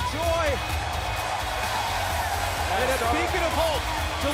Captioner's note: crowd cheering